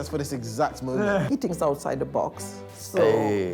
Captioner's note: laughs